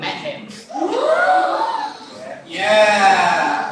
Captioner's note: actors gasp